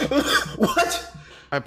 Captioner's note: coughing sounds